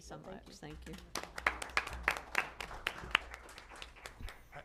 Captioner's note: applause